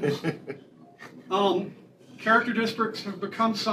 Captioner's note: laughter